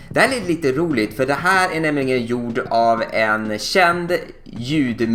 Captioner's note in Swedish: none